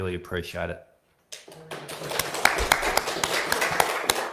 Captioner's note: all applaud